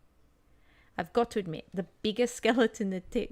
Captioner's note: reading text out loud